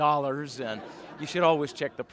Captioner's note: laughter